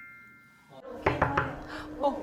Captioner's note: knock knock knock